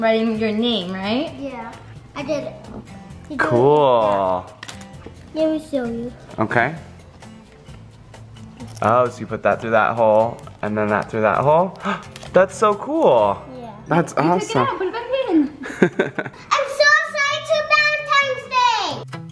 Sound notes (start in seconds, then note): 11.8 gasps; 15.6 man laughs